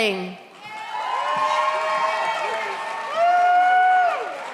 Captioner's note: audience cheers